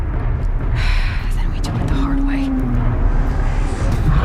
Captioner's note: sighs